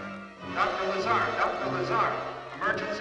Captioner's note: loudspeaker